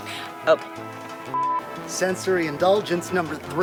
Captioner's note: beep